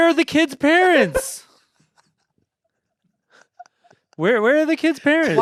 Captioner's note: everyone laughs